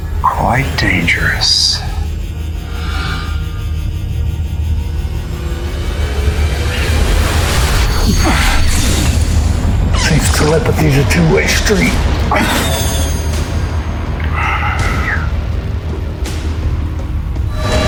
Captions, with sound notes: Quite dangerous. (energy whirring) (music rises) (Hawk groans) - Seems telepathy's a two-way street. (grunts) (action music continues)